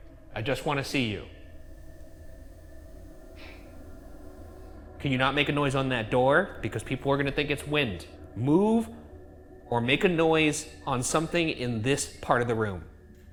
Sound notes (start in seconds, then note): 1.8 eerie music; 3.3 object bang